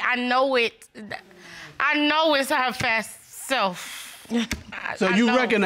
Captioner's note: chuckles